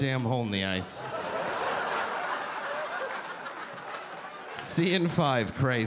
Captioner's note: audience laughing